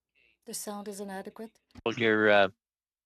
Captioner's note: speaking French